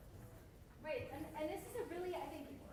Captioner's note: voiceover